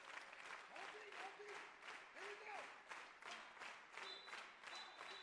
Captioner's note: applause